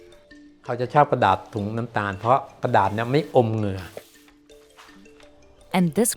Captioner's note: speaking foreign language